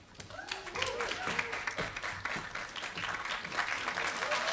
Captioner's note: applause